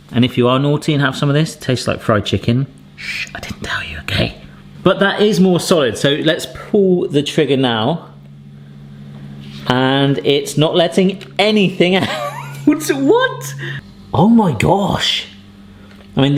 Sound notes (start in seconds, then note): 12.0 chuckling